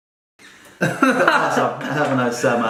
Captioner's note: laughs